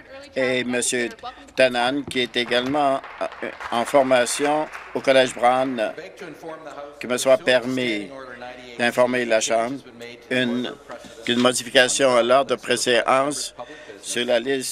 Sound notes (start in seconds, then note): 6.2 applause